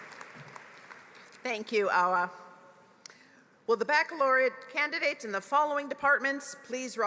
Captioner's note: applause